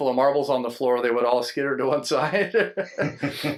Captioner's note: laughing